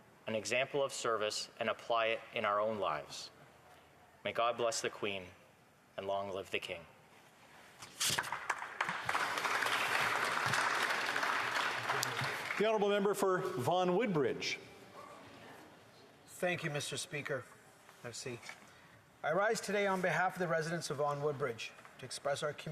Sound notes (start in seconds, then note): 11.0 applause